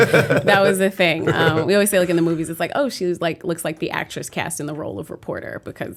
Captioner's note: laughter